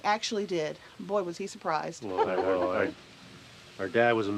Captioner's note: chuckles